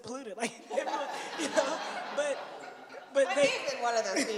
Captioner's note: laughter